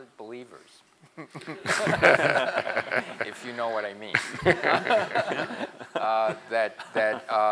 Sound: laugh

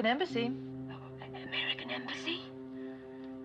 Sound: whispering

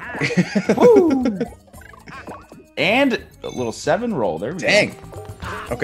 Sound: laugh

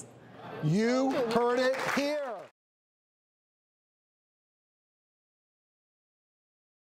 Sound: applause

